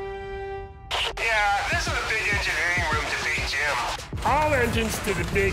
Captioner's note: Engineer Joe on speaker